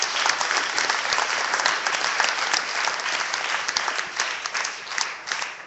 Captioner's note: clapping